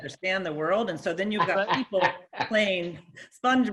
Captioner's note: laughing